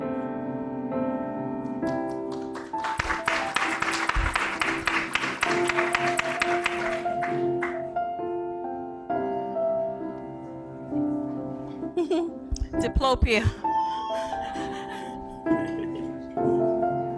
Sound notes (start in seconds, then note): 1.8 applause; 12.0 laughs